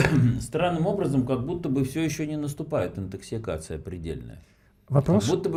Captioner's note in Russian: откашливается